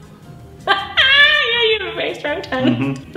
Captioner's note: laughing